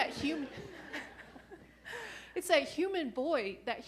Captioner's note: laughing